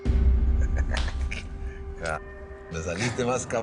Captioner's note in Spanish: Risas